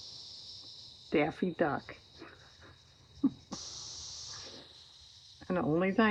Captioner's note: laughs